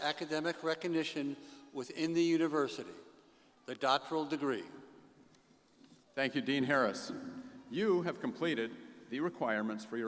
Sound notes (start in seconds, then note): none